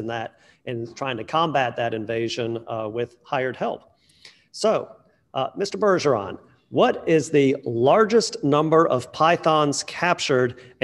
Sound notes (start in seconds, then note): none